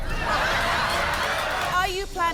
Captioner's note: crowd laughing